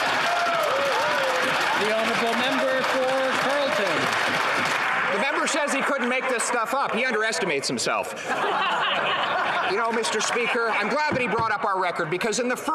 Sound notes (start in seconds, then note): 2.3 some Applause